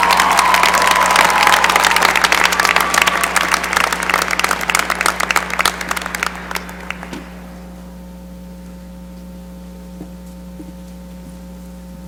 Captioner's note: cheering and applause